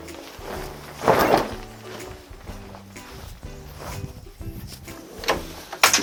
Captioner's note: shaking off blanket